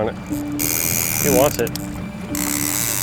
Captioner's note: fishing line whirring